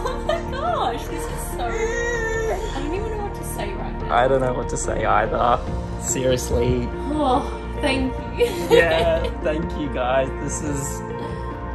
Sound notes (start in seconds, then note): 1.7 child gibberish